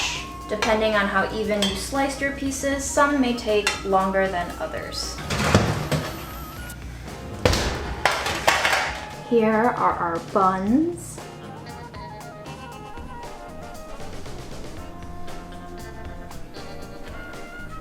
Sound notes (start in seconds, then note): 4.8 rattling sound; 11.0 upbeat music